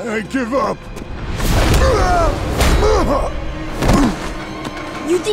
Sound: groaning

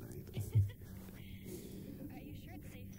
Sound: laughs

